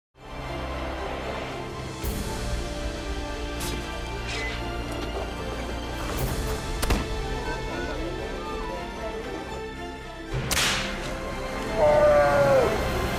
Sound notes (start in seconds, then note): 10.4 whip cracks; 11.6 shouts